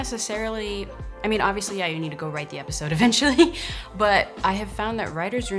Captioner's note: laughs